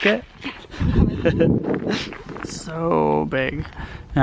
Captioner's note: laughing